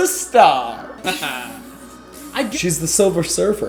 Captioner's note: laser sounds